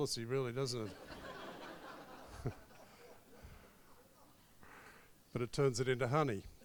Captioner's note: crowd laughs